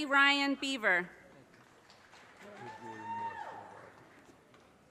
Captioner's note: audience cheers and applause